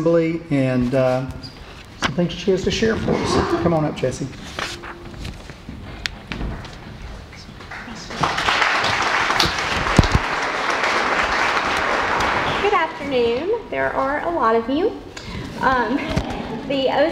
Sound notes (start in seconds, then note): 7.6 applause